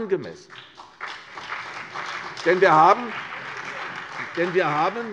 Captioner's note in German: Beifall